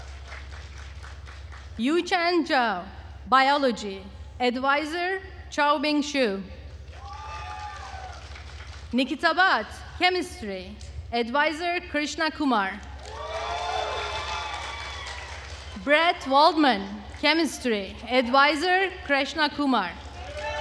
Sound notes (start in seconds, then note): 12.9 attendees cheering and applauding